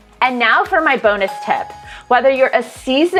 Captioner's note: bell dinging